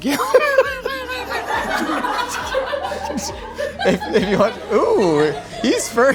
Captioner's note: laughing